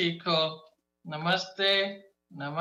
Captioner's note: speaking in foreign language